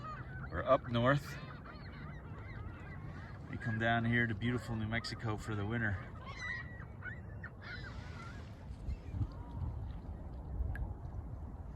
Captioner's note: geese calls